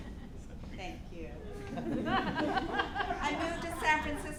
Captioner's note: audience laughing